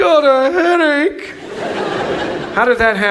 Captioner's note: audience laughs